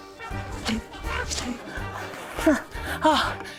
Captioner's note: grunts; gasps